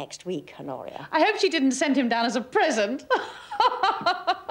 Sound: laughs

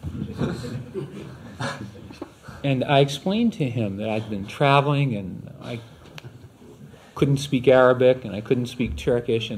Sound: laughter

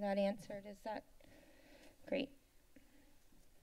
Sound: silence

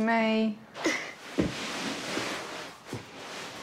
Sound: grunts softly

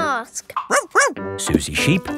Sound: barks

